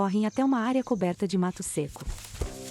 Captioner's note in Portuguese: Pássaros; Ruídos de solo seco